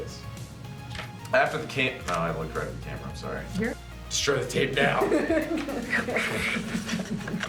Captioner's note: laughter